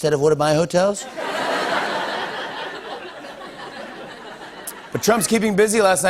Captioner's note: laughter